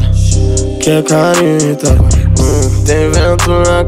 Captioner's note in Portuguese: Hum